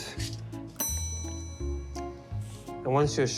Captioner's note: bell chiming